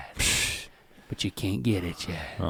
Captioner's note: Rhett scoffs